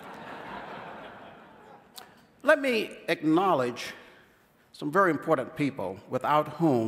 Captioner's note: laughter